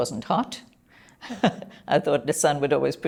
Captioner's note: chuckles